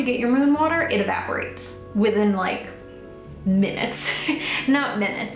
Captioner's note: laughs